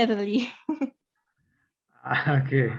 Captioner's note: chuckles